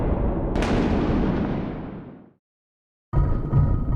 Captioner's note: thunder rumbles; thunder clasp; sinister music